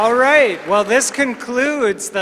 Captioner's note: applause